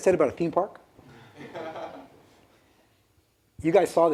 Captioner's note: laughter